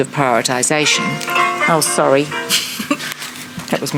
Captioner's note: phone rings